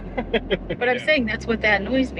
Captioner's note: laughs